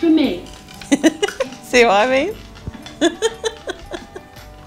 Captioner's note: laughing